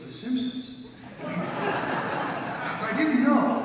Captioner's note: audience laughs